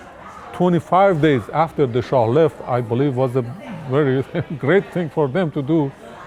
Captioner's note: laughs